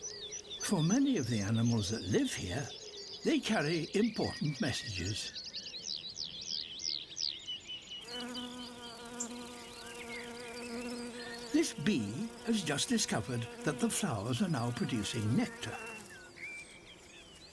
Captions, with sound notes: For many of the animals that live here, they carry important messages. (BEE BUZZING) This bee has discovered that the flowers are now producing nectar.